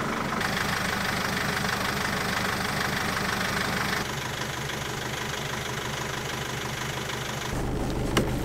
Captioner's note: engine noise